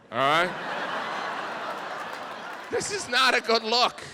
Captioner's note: audience laughs